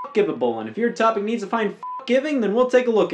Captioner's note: beeps; beeps